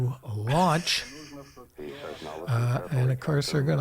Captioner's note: laughing